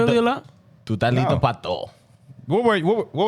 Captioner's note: speaking Foreign Language